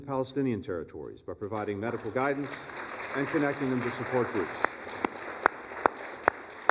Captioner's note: applause